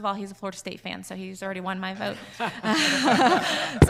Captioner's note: all laughing